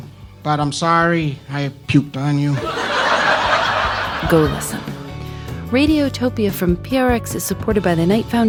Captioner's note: audience laughs